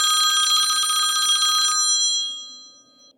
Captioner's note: old-fashioned phone rings